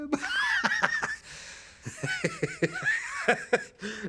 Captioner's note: man laughing